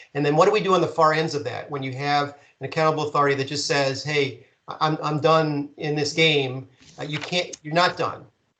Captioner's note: none